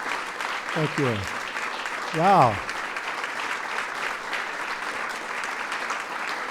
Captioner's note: applause